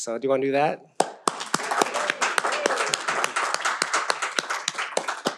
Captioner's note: graduates applaud